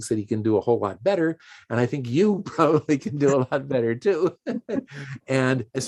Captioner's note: chuckles